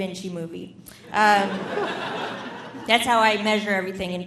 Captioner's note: audience laughing